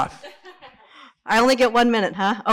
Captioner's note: laughs